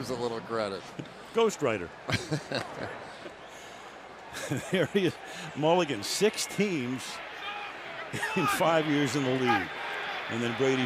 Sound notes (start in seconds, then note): 4.3 chuckles